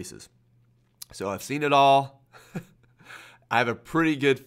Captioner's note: laughing